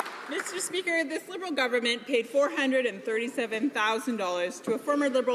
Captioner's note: some Applause